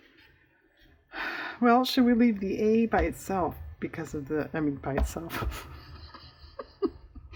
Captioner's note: laughs